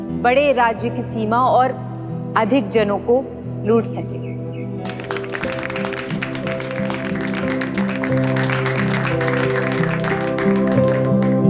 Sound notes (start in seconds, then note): 4.8 clapping